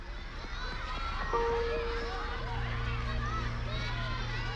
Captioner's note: children shouting in distance